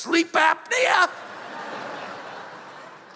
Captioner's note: laughter